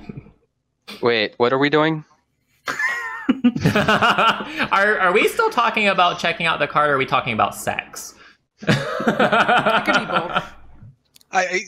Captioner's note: laughter